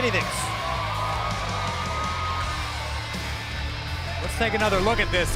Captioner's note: cheers & applause